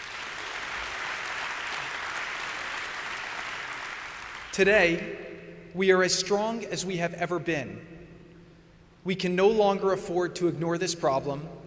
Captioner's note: applause